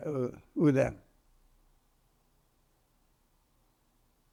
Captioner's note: pauses 6 seconds